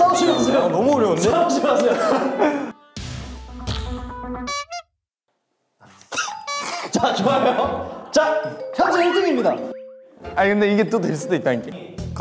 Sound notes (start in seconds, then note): 6.2 laugh